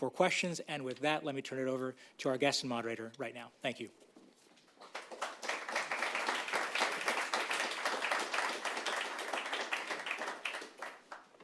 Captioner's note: applause